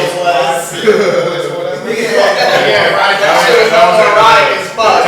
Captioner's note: laughter